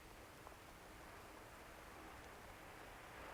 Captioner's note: waves crash in distance